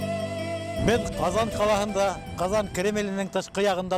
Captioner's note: in Bashkir